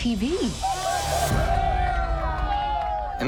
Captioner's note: cheering, laughter